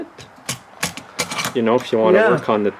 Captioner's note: carburetor sliding